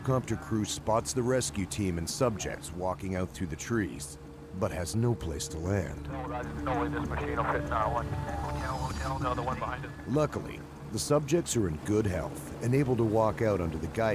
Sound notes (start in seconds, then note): 0.0 voiceover; 2.8 helicopter whirring; 12.1 voiceover